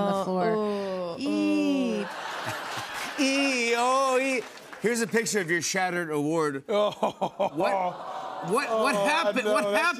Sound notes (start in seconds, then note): 2.0 laughter; 7.3 audience groans; 8.4 laughing